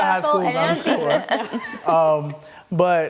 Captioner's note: laughter